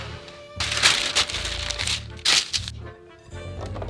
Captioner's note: paper rustling